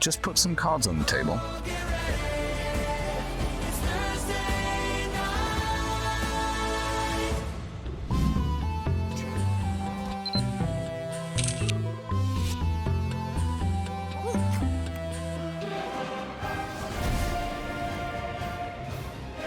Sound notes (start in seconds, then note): 2.5 singers singing; 9.0 music playing; 11.3 camera clicks; 14.7 munching; 17.2 valiant music playing